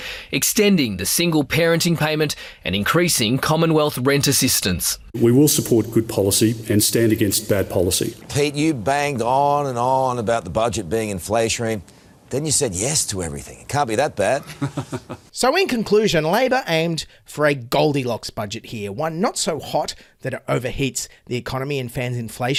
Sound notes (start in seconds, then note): 14.4 laughter